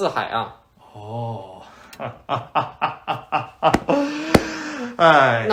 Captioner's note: slaps own head, starts laughing